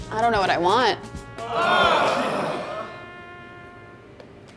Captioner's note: overdue sighs of exasperation